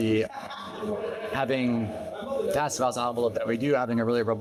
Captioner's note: audio distorting